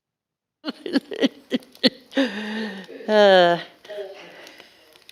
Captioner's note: laughs